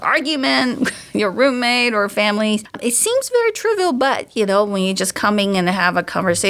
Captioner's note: chuckles